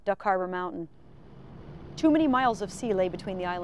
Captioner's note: boat engine roaring